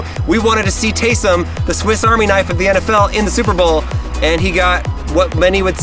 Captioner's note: none